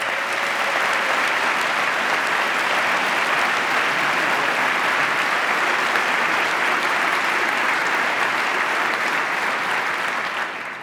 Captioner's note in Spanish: aplauso